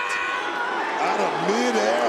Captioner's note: crowd boos